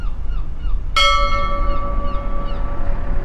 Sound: seagulls caw; bell clangs

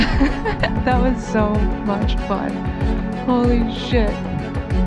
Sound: laughs

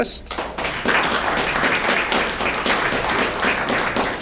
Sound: audience clapping

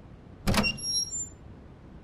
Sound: door opens

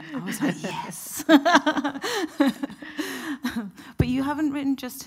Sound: both chuckling

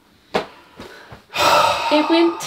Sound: sighing

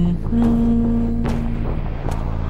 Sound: there's the hum again, I love it hahaha

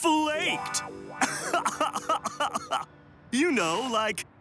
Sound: laughs

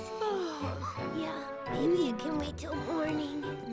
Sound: yawns

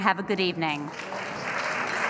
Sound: applause

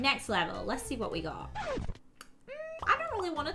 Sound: record screeches

